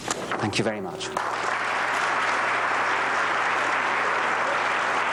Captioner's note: applause